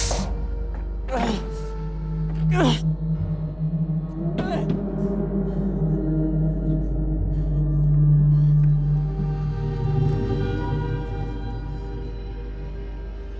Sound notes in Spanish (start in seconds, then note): 1.2 Golpes